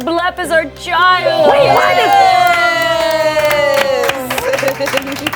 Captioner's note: all clapping